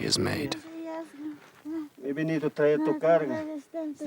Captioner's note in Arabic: الصوت المنطوق باللغة الكيتشوا